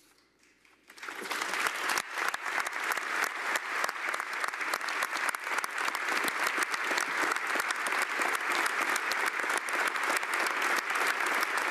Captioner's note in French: Applaudissements